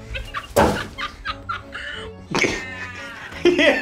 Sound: paint crashes; laughing

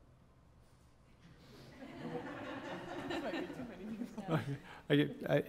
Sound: laugh

